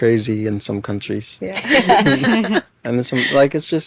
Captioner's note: all laughing